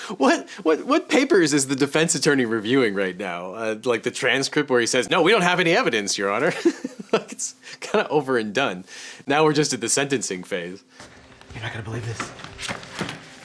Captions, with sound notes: What papers is the defense attorney reviewing right now? Like the transcript where he says, "No, we don't have any evidence, your honor." (laughs) It's kind of over and done. Now we're just at the sentencing phase. - You're not gonna believe this.